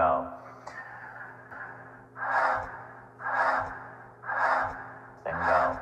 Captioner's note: inhaling and exhaling air